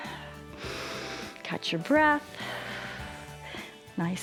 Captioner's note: exhales